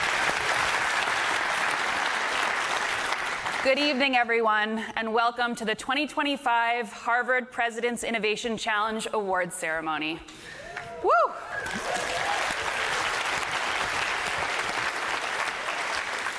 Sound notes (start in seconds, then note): 0.0 applause